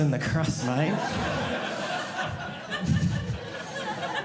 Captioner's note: audience laughing